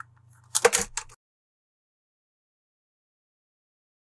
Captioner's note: phone drops